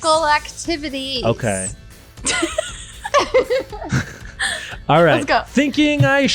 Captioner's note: laughing